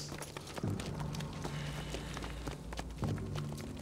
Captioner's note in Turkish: Nefes sesi